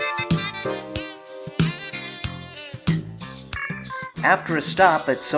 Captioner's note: none